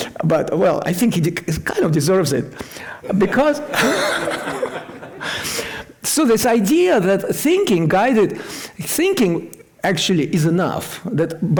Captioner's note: laughter